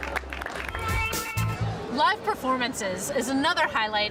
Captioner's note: applause